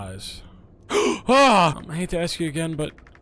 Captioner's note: Skull gasps